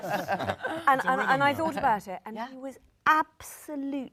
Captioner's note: panel laughs